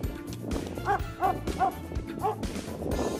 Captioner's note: dog barking